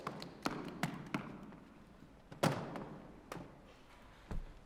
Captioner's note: Joel clapping